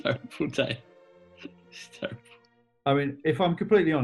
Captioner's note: laughing